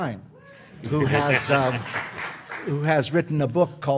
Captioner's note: audience applauding